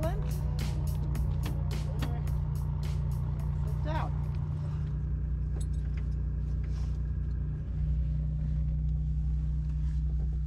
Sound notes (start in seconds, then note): 3.1 plane whirs; 6.9 plane whirs